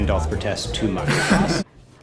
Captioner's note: laughs